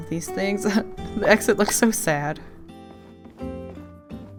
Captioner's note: laughs